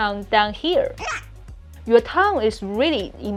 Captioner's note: child gasping